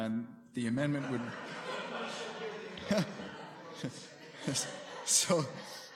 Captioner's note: laughter